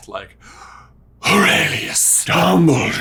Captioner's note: breathes deeply